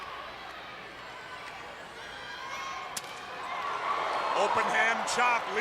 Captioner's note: crowd cheering